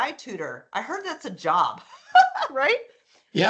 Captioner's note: laughing